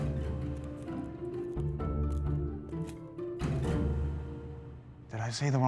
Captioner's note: footsteps